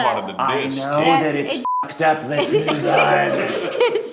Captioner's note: beep; laughs